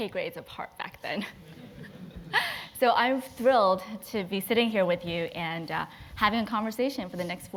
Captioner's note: laugh